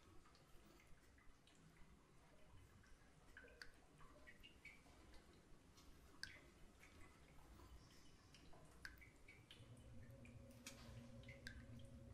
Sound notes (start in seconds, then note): 1.7 water dripping